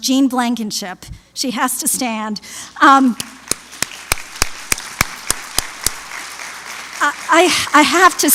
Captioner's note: applause